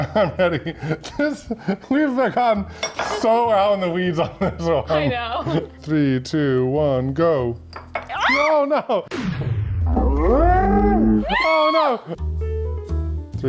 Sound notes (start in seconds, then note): 0.0 laughs; 7.5 shouting; 12.0 soft music